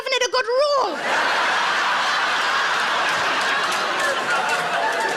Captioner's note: audience laughs